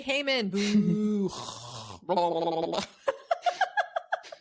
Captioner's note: giggles; gurgling; laughing